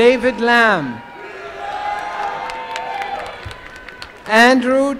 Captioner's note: applause and cheering